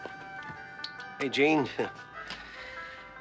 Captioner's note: chuckling